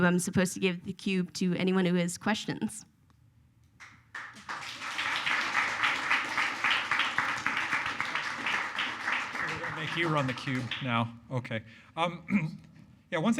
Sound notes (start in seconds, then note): 3.8 audience applauds